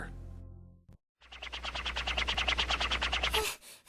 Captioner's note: Tails hovering